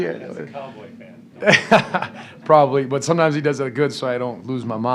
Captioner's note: laughs